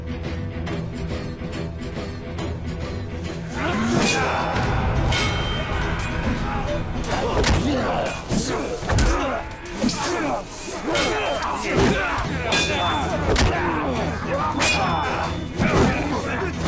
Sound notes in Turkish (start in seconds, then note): 3.4 Dövüş Sesleri